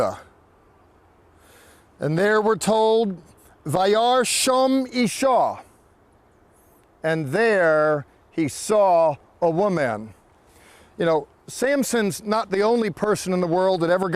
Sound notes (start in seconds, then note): 3.7 speaking in Hebrew